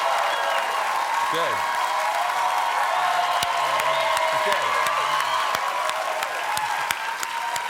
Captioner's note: cheers and applause